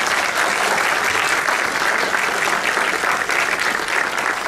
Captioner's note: applause